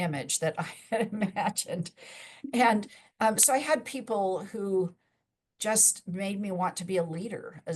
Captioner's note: chuckles